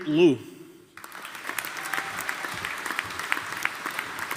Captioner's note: audience applauding